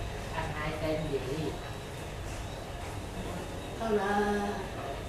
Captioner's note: none